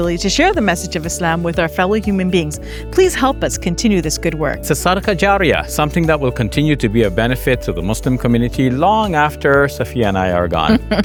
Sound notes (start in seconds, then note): 4.6 speaks in foreign language; 10.7 chuckles